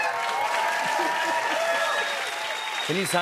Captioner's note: cheers and applause